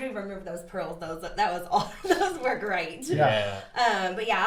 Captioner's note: laughs